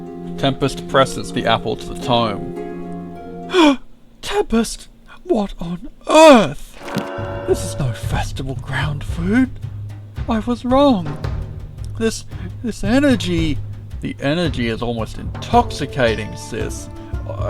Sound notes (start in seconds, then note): 2.6 Aura gasps